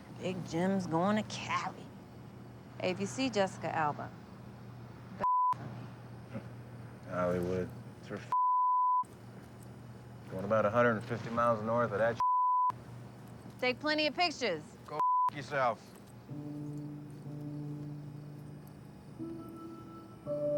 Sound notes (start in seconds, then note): 6.5 chuckles; 16.3 suspenseful music